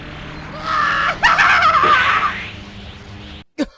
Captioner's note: maniacal laughter